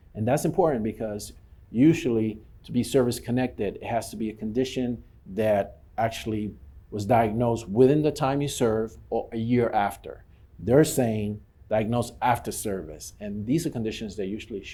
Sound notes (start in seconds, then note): none